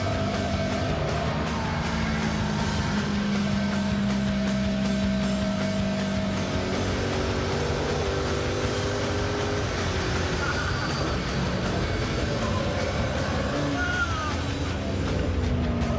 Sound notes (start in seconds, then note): 0.6 tires squealing; 6.3 engine roaring